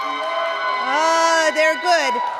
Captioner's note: cheering